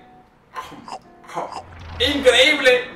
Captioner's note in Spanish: sonidos de comer